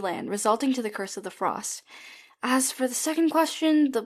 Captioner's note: none